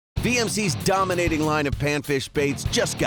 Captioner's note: voiceover